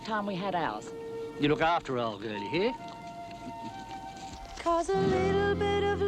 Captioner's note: chuckling